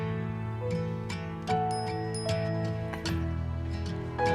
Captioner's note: phone chimes